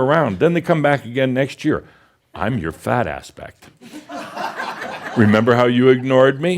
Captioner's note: laughter